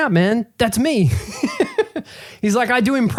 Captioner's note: laughing